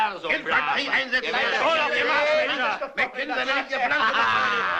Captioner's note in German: Geschwätz